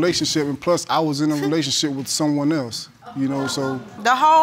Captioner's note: audience exclaims